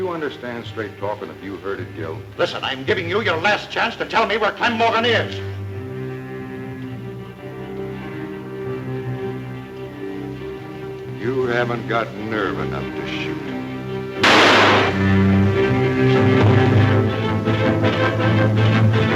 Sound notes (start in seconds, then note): 5.9 suspenseful music; 14.2 gun bangs; 16.4 dramatic music